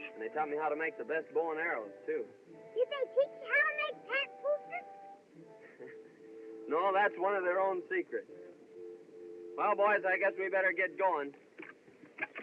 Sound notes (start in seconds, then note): 5.6 chuckles